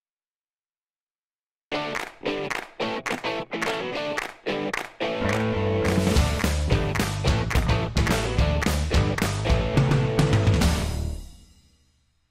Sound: claps

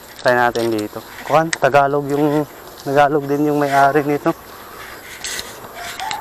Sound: philippine Language

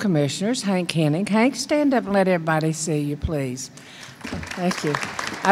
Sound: applause

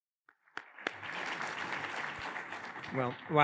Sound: attendees applauding

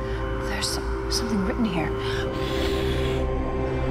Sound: blowing

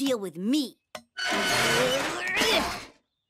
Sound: groaning; yelling

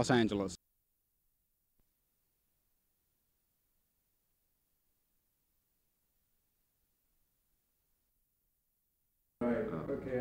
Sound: silence

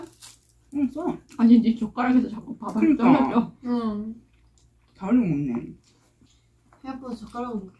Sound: crying

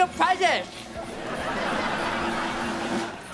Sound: laughing

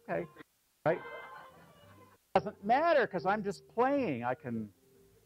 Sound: laugh

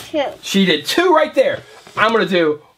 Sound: voiceover

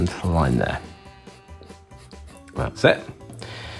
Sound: pen scratching

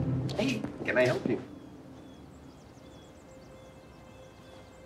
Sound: birds chirping peacefully

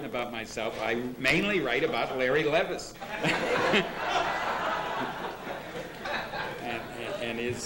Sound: laughter

